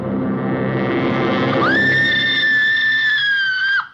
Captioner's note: screaming